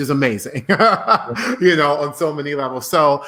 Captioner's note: laughing